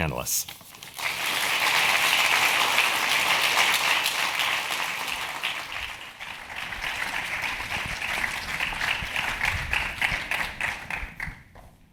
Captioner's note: applause